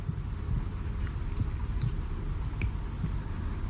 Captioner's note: heartbeats